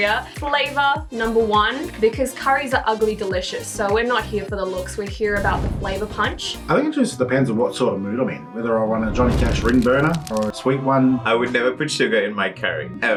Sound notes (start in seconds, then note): 9.0 fire crackles; 11.0 angelic music